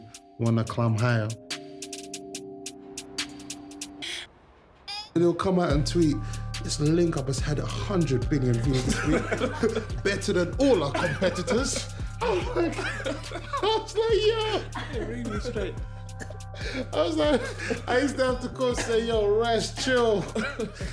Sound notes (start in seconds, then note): 8.7 laughter; 12.2 laughter